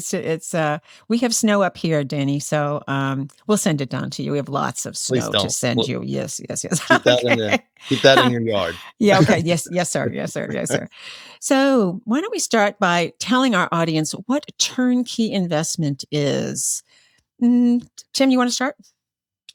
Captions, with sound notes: We have snow up here, Danny. So we'll send it down to you. We have lots of snow to send you. Yes. (Laughter) Keep that in your yard. Yeah. Yes, sir. So why don't we start by telling our audience what turnkey investment is. Tim, you want to start?